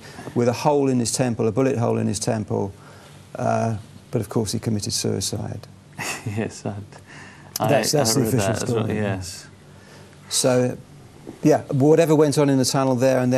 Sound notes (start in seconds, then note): 6.0 chuckles